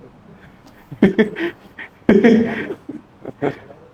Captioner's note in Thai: เสียงหัวเราะ